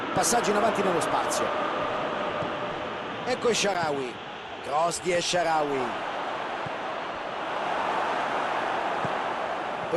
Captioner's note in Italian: Applauso